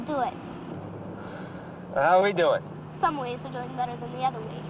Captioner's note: none